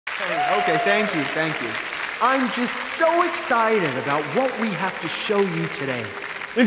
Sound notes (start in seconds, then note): 0.0 applauding